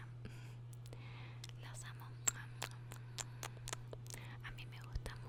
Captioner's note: kisses